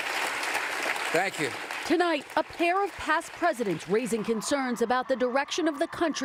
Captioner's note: applause